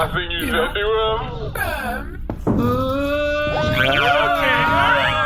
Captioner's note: begins crying